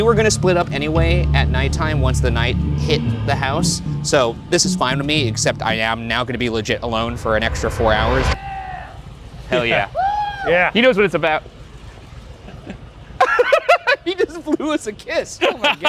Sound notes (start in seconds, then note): 13.2 laughs